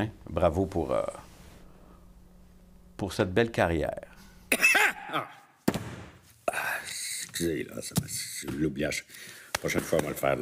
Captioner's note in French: Il tousse très bruyamment